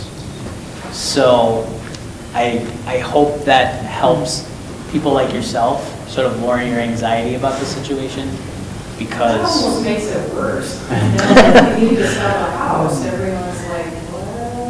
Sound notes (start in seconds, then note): 9.1 laughing